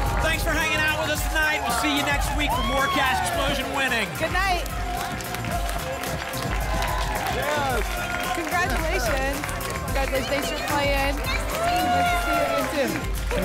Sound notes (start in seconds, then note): 5.6 applause and cheering cont